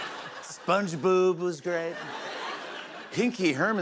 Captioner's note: laughter